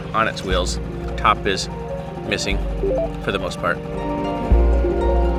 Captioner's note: bell chimes; light music